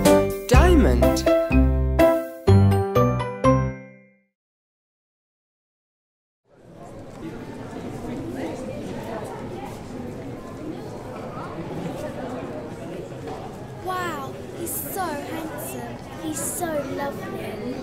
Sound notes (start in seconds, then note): 6.6 chatter